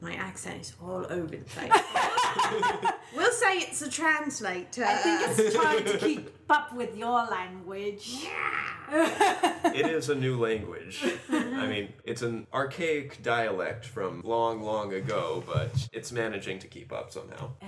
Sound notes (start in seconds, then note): 8.5 snarls